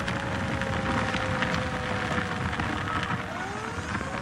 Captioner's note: flames crackling; sirens wailing